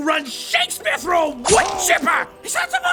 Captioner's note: Godfree groans in pain